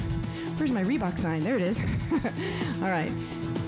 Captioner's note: laughs